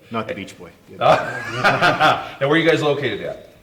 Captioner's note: all laughing